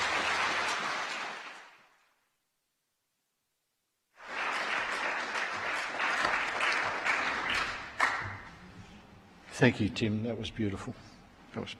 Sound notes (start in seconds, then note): 0.0 applause